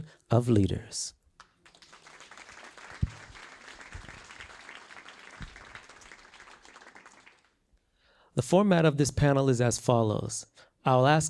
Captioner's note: applause